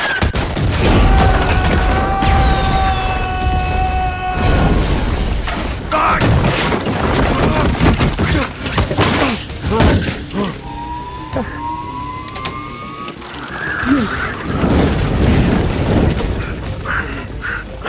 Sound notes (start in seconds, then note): 0.9 yelling; 5.9 grunting; 9.4 grunts, winces; 16.5 panting